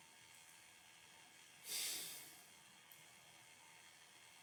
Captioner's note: sigh